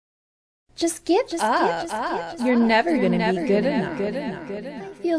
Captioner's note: echo